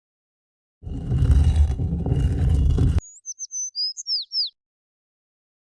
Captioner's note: sliding sounds; bird chirping